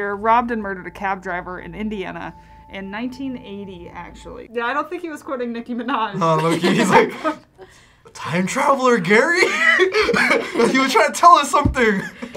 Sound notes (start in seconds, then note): 9.9 laughs